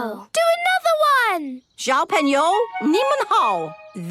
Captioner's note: speaking Chinese